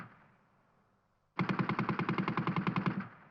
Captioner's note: gunfire sounds